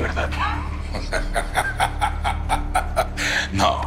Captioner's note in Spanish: Risas